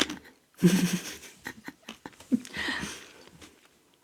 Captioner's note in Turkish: kahkaha